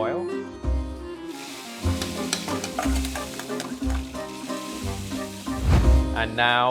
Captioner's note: relaxed, jazzy music; shallots sizzling